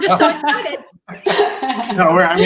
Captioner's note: laughter